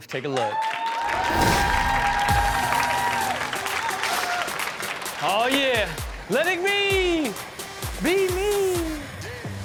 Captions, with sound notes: Take a look. (audience cheers) (upbeat music) "Oh yeah! Letting me be me!